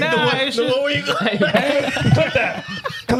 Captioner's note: speaking In Foreign Language